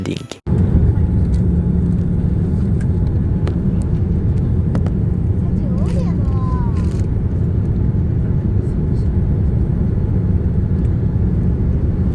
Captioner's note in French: Son de l'atterrissage